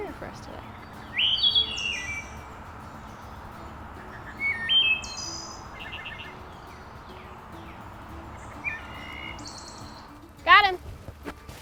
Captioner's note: thrush calls play on speaker